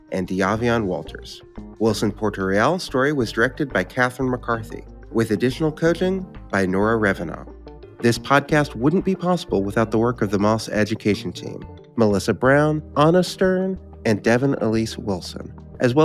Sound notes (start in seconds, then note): none